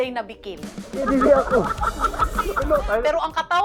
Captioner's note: everybody laughing